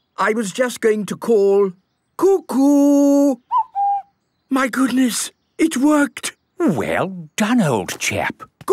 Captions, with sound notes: I was just going to call, "Cuckoo!" - (distant cuckoo) - My goodness! It worked! - Well done, old chap!